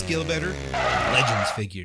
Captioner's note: dunebuggy sounds